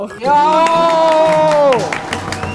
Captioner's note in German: Jubel, Applaus